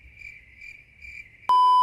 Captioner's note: crickets; beeeeeeeeeeeep